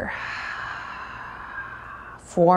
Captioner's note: deeply exhales